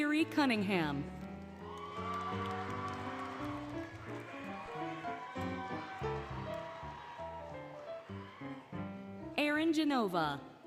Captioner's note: applause, Cheering, Music